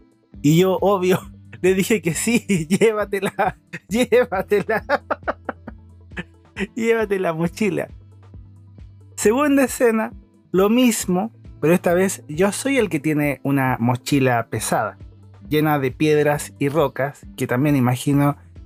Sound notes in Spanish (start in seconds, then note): 3.2 risas